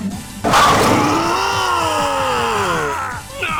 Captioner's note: pained cries